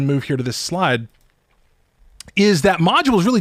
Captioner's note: mouse clicks